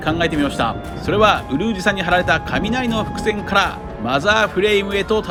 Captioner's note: thunder